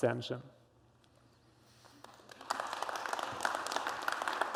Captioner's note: applause